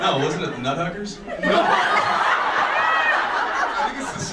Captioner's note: audience laughs